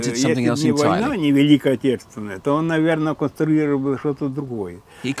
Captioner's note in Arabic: الصوت المنطوق بالروسية